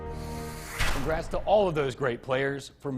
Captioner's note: logo swooshes